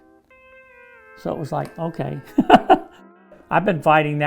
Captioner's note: laughs